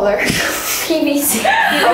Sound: laughing

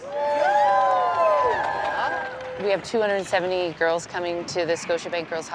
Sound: cheering

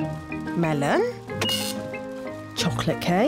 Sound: none

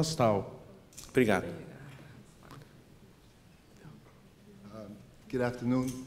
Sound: speaking portuguese

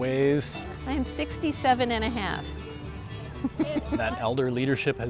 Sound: laughing

